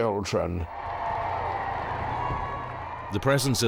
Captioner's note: crowd cheering